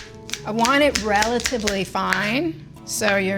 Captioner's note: knife clacking